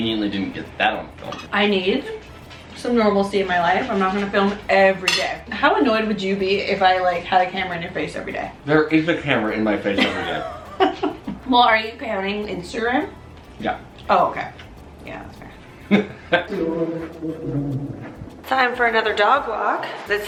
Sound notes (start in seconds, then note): 9.9 laughing; 15.7 laughing